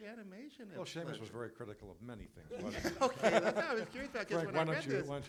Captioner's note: laughter